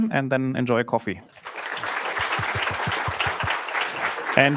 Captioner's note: applause